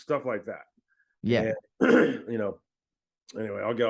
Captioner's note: clears throat